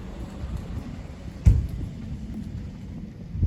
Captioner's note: car door closes